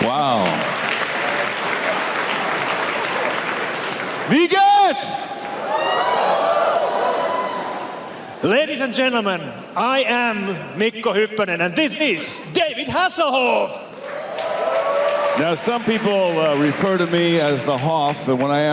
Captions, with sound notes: Wow! (Applause) Wie gehts? (cheers) Ladies and gentlemen, I am Mikko Hypponen and this is David Hasselhoff! (Applause) Some people refer to me as the Hoff,